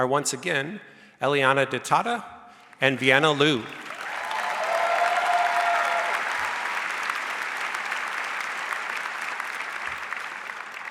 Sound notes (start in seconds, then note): 3.0 audience cheers and applauds